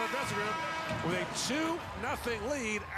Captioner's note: sirens